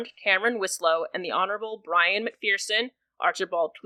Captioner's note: none